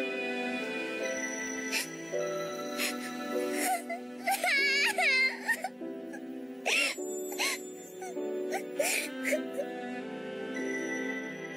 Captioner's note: crying; sniffle